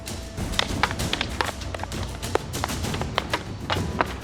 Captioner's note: sticks clunking; thrilling music continues